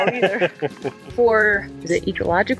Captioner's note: laughs